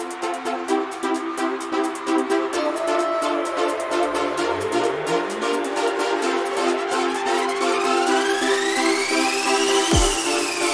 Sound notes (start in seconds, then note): 0.0 applause and hi-hat loop as music continues to fade in; 2.4 SFX: "Doo, Doo, Doo"